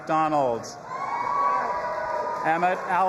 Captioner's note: audience applauding and cheering